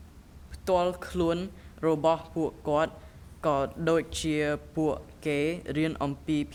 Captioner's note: speaking in a foreign language